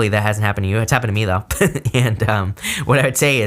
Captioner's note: chuckles